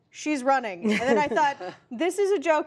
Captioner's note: laughter